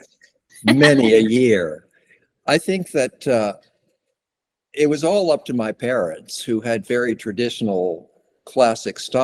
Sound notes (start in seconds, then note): 0.6 laughter